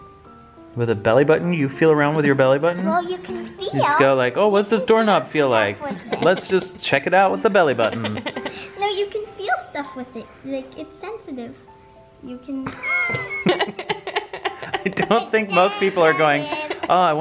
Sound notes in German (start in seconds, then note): 12.6 lachen